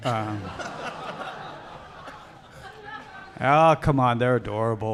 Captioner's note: audience laughing; audience jeering